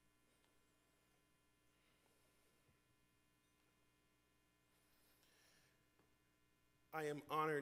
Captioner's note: moment of silence